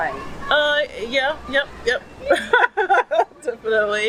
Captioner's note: laugh